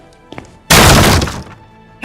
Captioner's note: door being kicked open